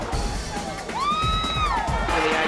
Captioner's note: girl cheering